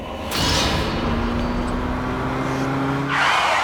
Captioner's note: car revving; tires squeal